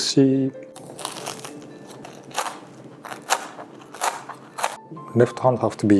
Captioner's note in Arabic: صوت طقطقة جلد السلمون المقرمش